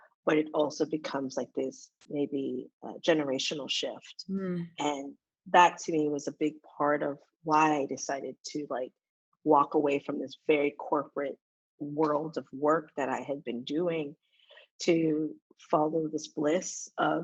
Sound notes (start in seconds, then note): none